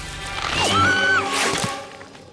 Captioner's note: scream